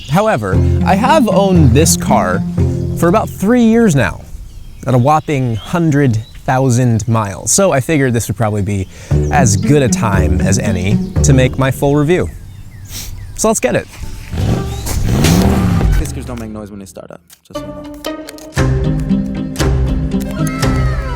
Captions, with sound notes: However, I have owned this car for about three years now at a whopping 100,000 miles, so I figured this would probably be as good a time as any to make my full review. So let's get it. (car engine growling) Tesla's don't make noise when they start up, just. (gentle music)